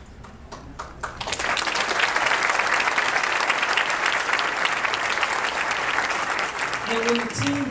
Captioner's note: applause